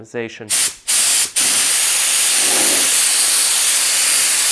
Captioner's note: spraying sound